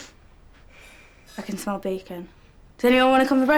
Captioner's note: sniffs